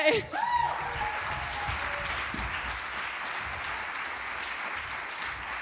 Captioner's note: applause